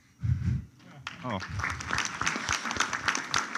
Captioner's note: applause